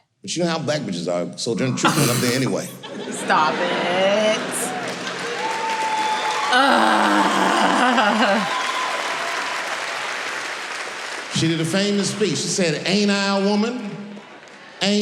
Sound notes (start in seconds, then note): 4.4 laughing; 6.4 cheering